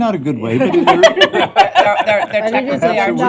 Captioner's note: laughter